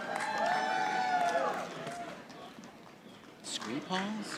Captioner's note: audience applauding